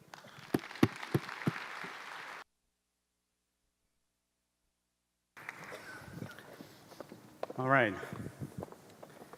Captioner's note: applause